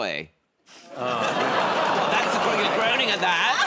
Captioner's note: audience groans